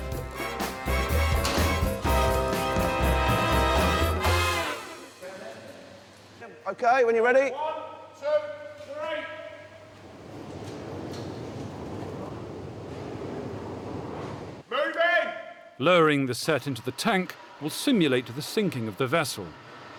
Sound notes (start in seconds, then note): 9.9 rumbling